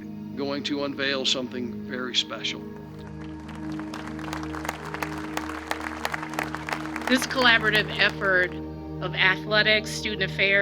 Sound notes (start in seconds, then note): 2.8 audience applauding